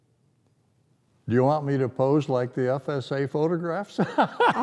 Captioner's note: laughter